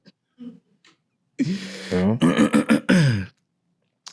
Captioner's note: laughing